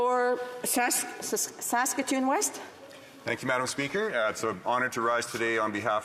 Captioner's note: speaking French